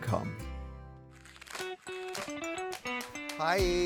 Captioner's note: paper rustles; upbeat music